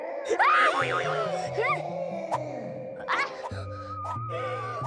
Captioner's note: Blueberry screams; distant howling